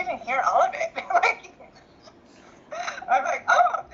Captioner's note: laughs